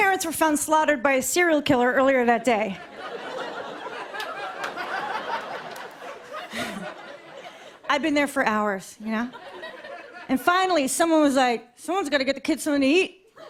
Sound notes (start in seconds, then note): 2.4 laughter